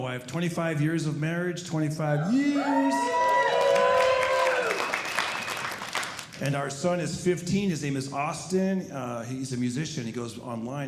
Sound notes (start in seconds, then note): 2.1 audience cheering